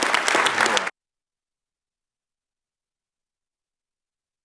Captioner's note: applause